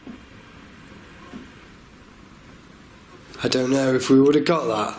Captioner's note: faint tapping